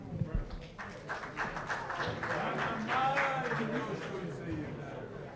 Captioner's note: applause